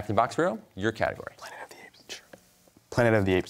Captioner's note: whispers